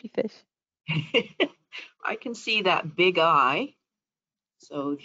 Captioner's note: laughs